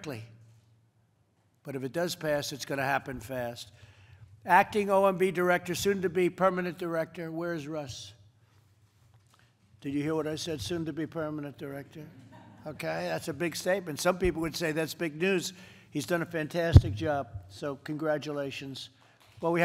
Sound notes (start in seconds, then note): 12.2 laughter